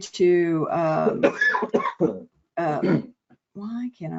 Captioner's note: coughs